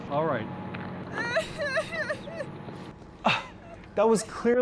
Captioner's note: Pamela crying; scoffs